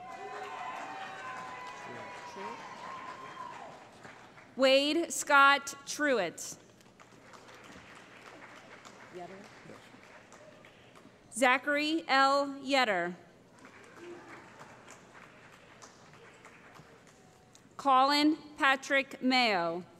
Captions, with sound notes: [ Cheering ] Wade Scott Truitt [ Applause ] Zachary L. Yetter [ Applause ] Collin Patrick Mayo